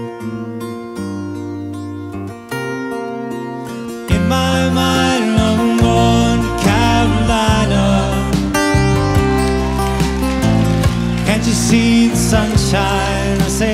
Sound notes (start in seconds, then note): 8.2 audience applauding